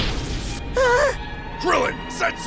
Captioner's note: gasp!